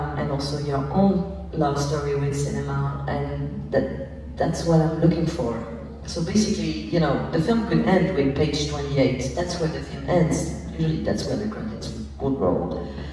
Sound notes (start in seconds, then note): none